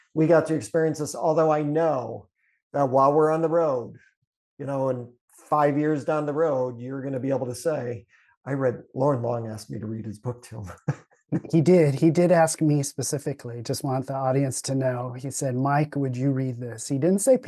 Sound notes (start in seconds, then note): 10.6 chuckles